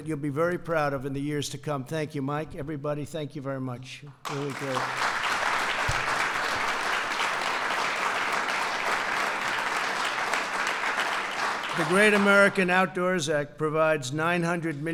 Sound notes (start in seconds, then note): 4.2 applause